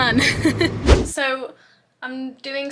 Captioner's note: video swooshes